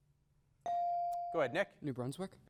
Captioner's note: bell dings